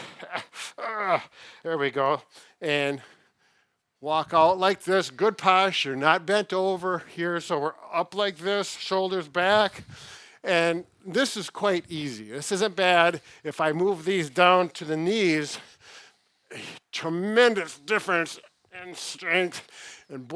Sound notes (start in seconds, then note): 15.6 breathes heavily